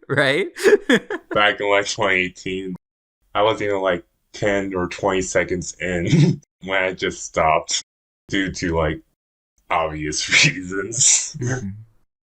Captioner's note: laughs; laughs